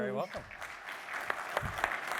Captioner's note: applause